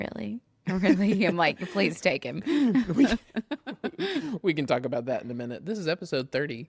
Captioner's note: laughs